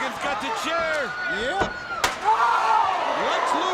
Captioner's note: Lex screaming